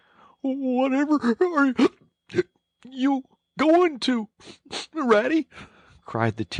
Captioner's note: hic